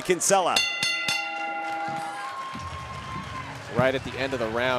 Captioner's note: bell rings